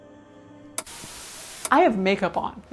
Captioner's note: static buzzing